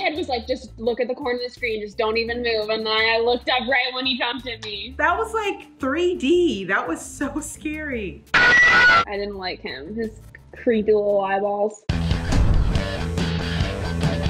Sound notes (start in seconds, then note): 8.3 screeching noise; 11.9 upbeat rock interlude